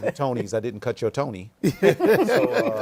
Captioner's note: laughter